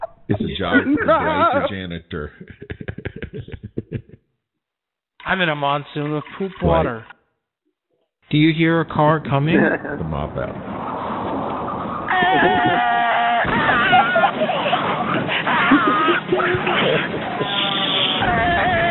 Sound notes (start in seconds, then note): 9.5 laughter; 12.0 screaming